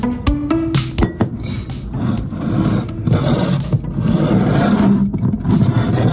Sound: bottle scrapping along table

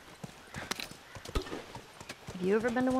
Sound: objects rattle

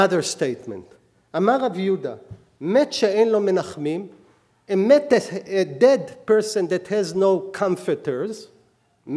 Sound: speaking hebrew

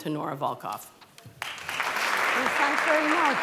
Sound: applause

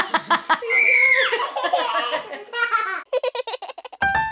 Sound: yelling and laughter; laughs; baby giggles; piano plays

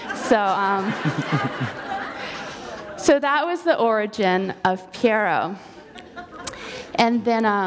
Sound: laughter

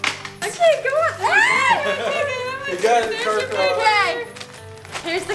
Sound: girl screeches

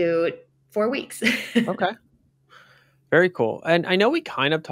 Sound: laughs

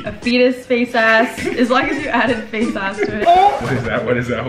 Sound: laughter

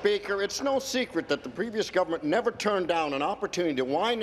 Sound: some Applause

